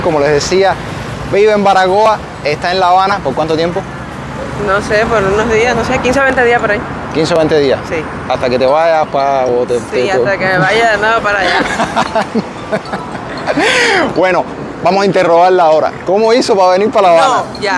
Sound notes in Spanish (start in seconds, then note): 11.4 risas